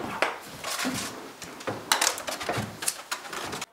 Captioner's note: rattling, scraping, rustling